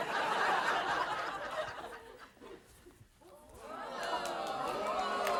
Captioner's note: audience laughing; audience cheers and claps